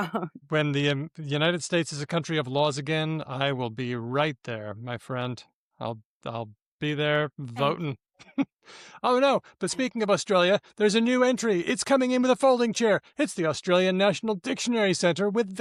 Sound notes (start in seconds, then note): 8.2 chuckles